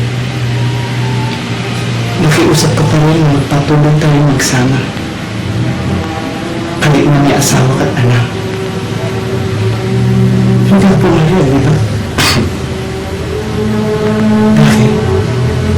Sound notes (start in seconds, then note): 12.1 Ben coughs